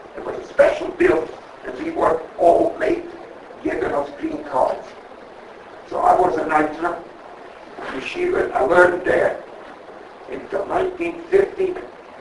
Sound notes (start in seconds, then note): 6.6 Yiddish